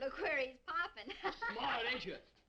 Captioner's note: Meagan laughing